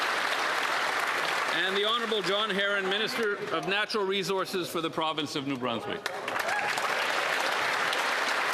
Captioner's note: applause